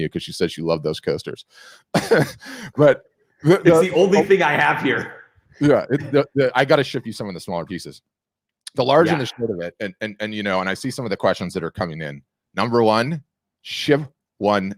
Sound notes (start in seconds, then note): 1.9 laughing